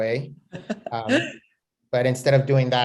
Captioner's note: chuckles